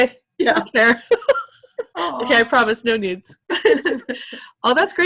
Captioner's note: laughter